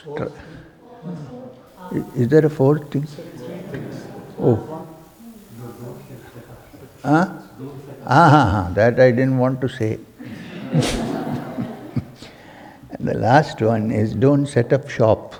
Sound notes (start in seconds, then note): 10.2 laughter